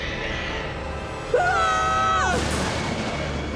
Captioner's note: both scream